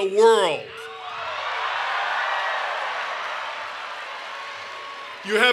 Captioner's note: cheering and Applause